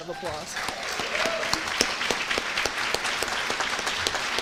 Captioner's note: applause